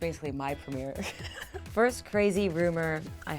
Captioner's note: laughing